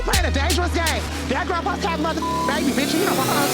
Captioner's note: beep